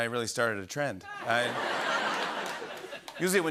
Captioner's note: laughter